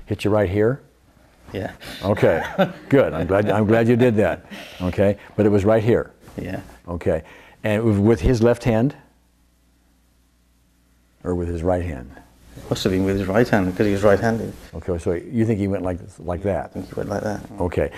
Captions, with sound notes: - Hit you right here? - Yeah. (laughs) - Okay, good. I'm glad you did that. Okay, but it was right here? - Yeah. - Okay. And it was with his left hand, or with his right hand? - It must've been with his right hand because he was right handed. - Okay, so you think he went like that? - I think he went like that.